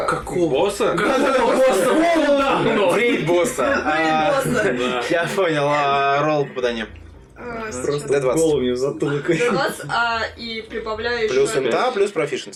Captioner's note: the table laughs as said it as if she launches an attack on the "boss"